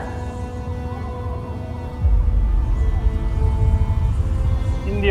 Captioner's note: wind howling